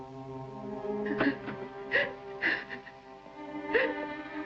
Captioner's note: continues Sobbing